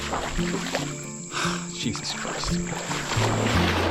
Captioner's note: sighs